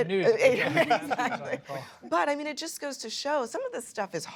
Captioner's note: laughter